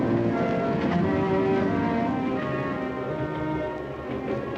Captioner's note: train rumbling